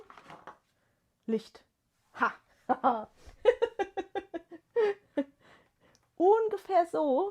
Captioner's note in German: gelächter